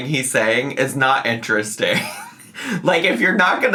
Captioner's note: laughs